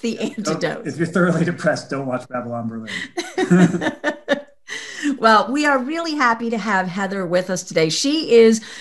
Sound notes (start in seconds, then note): 3.3 laughs